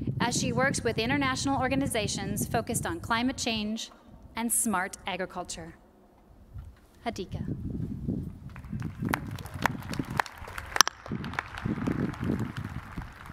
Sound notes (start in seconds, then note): 8.6 cheers and applause